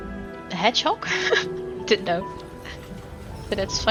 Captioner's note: laughs